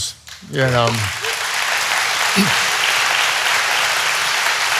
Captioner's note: audience applauding